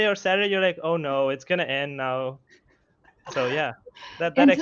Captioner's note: laughs